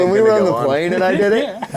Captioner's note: laughing